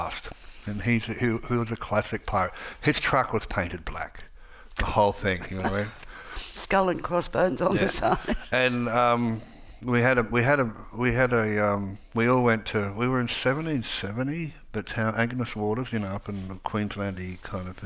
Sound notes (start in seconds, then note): 8.1 laughs